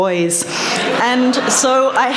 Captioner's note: laughter